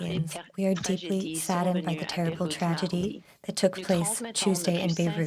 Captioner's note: speaking french